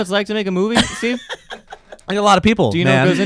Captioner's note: laughing